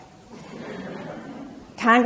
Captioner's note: audience laughs